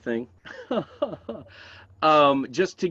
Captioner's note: laughs